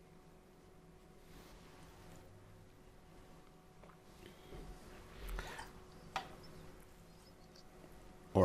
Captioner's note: silence